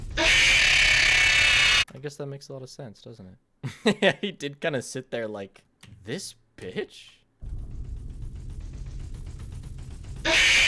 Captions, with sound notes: I guess that makes a lot of sense, doesn't it? (Laughs) Yeah, he did kind of sit there like... This bitch?